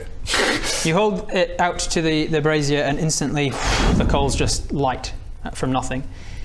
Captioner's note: whoosh